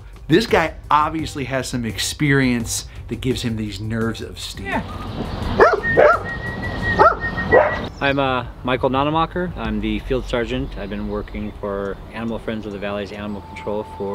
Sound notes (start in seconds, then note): 5.3 dog barks; 5.6 whistling